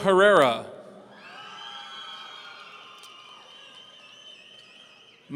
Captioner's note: audience cheering